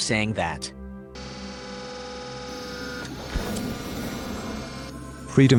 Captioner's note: door closing